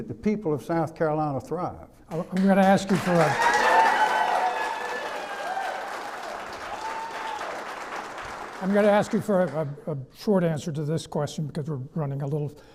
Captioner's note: clapping